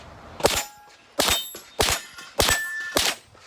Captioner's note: dings